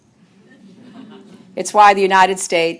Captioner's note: laughter